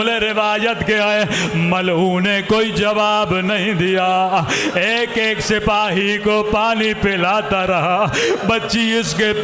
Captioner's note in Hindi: हंसी